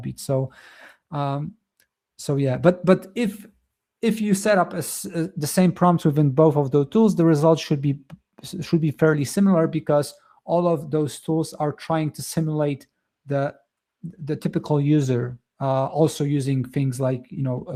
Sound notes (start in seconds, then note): none